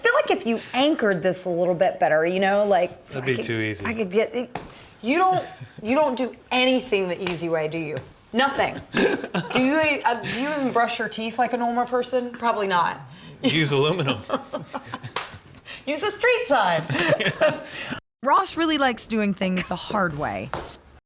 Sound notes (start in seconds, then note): 13.5 chuckling; 16.8 both laughing